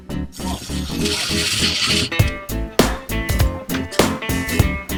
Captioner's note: drill whirring